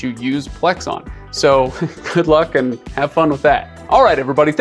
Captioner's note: chuckles